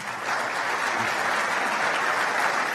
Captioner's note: applause